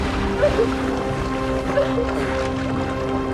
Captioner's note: sobbing